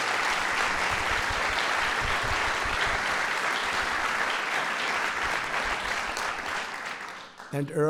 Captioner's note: applause